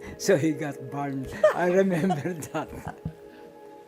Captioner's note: laughs